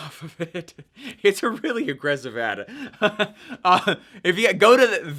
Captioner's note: laughing; laughing